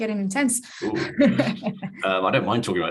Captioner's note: host laughs